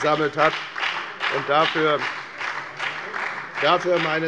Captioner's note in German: Beifall bei der FDP und bei Abgeordneten der SPD